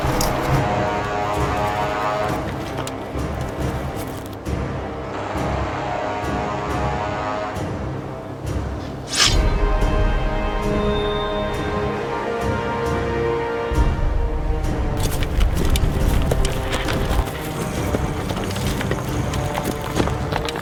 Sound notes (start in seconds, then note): 0.2 thrilling music; 9.1 sword clatters; 17.7 growling softly